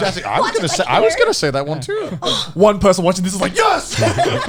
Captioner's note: gasping